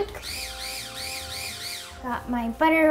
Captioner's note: blender whirring